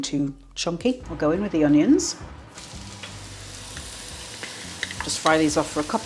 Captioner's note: sizzle